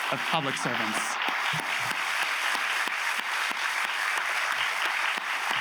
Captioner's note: audience applauds